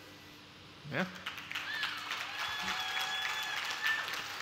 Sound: applause

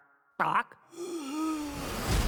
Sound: wheezes

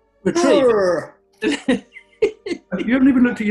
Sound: laughing

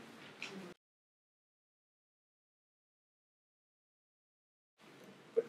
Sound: silence

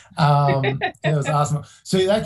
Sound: laughs

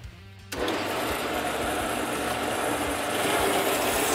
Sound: machine whirring

